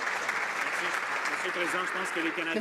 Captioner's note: some Applause